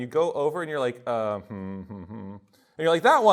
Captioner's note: hums